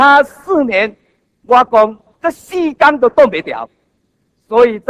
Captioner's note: in Taiwanese